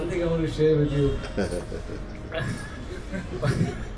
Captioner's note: Mooji laughing